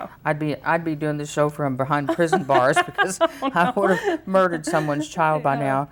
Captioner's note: laughs